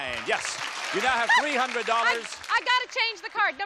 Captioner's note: applause